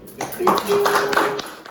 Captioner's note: applause